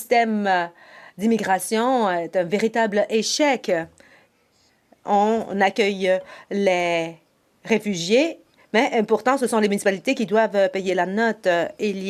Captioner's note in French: voix de l'interprète